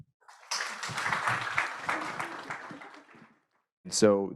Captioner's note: audience applauding